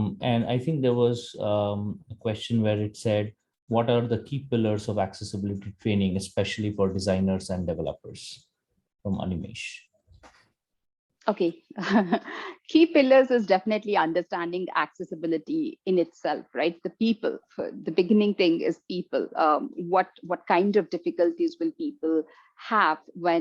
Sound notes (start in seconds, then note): 11.8 chuckles